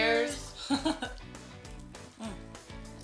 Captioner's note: laughing